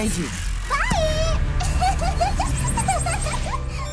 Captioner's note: giggles